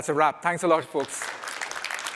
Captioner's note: applause